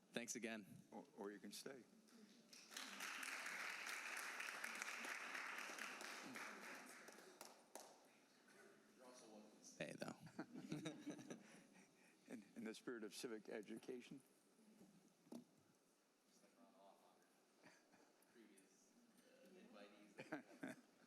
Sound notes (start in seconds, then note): 4.9 applause